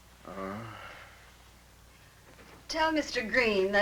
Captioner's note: groaning